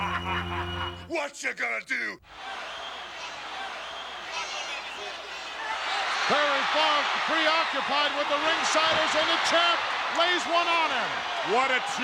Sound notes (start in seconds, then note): 2.8 crowd cheers